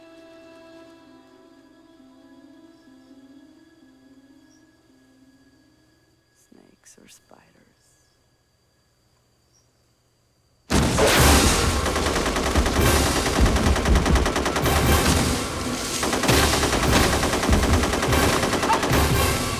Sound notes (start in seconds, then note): 10.3 explosion; 10.7 automatic Weapons Fire